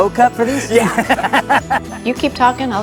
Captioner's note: laughs